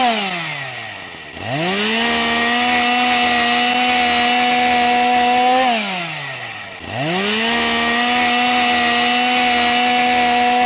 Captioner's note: chainsaw sound